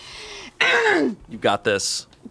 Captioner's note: grunts